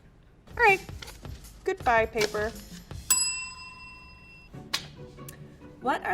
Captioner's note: bell rings